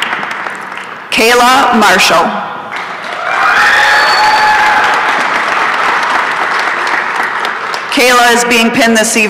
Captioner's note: applause and cheering